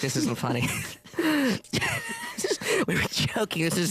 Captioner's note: they laugh